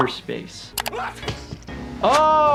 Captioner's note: Lumpy sneezing